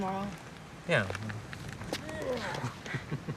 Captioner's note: laughs